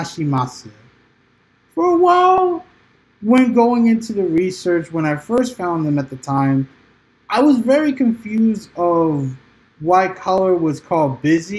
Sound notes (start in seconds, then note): 0.7 transitioning from japanese to english